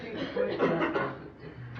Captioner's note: laughter